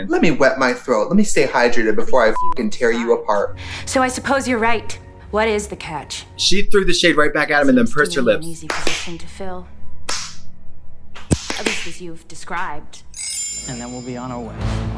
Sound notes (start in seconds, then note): 2.3 beep; 8.7 hands clap